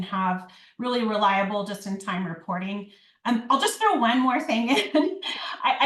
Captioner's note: laughs